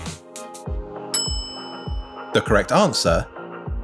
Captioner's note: bell rings